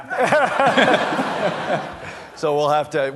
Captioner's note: laughter